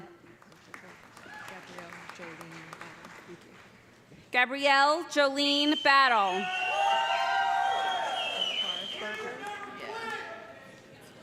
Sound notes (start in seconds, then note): 0.3 applause; 6.2 loud cheering